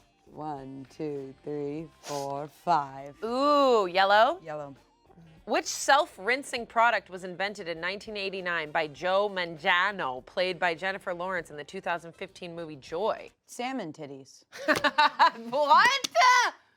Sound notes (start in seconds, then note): 14.5 laughs